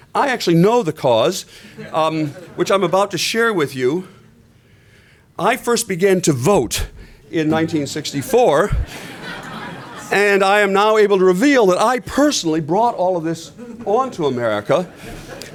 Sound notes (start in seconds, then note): 1.7 laughter; 8.5 laughter